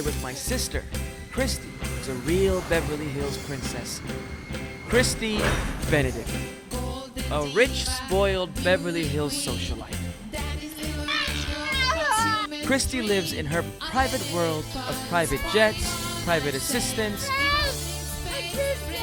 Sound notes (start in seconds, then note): 0.9 pop music; 9.7 pop music; 10.8 yells